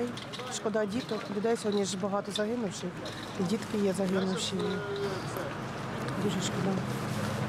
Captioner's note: speaking Alternate Language